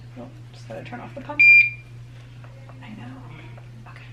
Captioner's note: beep